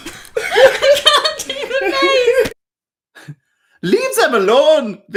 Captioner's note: laughter